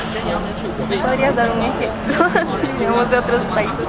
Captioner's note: laughs